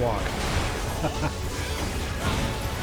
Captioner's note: laughs